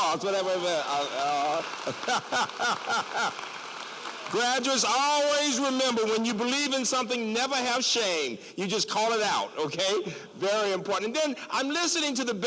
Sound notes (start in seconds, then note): 0.0 applause; 1.8 laughter